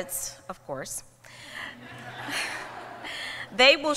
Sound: laughter

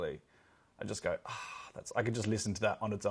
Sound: sighs

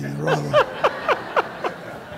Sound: laughter

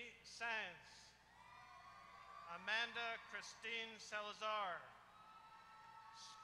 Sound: applause

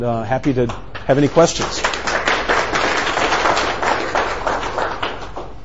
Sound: audience clapping

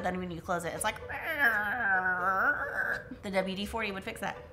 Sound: imitates hinges squeaking

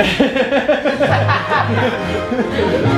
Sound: laughs

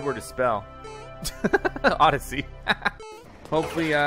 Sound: laughs

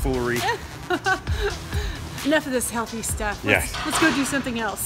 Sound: laughs

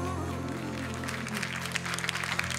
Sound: cheering and applause

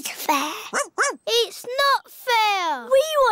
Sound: barks

